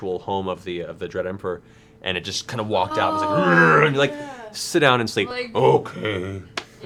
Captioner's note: roars